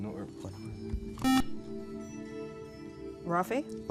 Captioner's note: beep